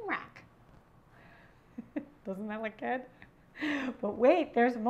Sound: chuckles

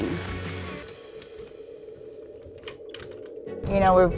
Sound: wheelchair rumbling

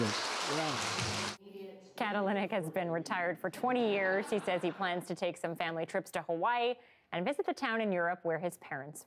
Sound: laughter

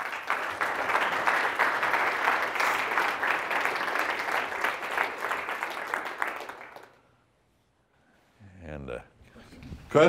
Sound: applause

